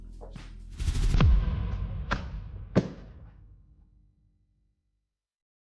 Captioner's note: slams folders on table